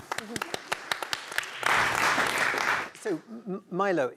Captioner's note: applause